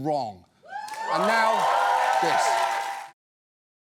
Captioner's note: audience cheers